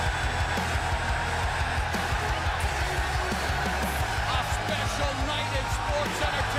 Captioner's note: crowd cheering